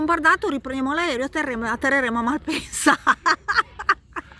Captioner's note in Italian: risate